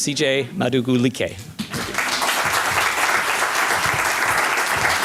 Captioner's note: applause